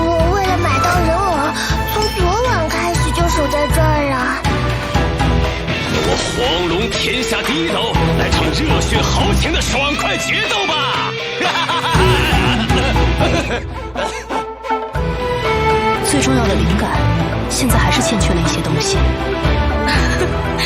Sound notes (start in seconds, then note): 14.2 cough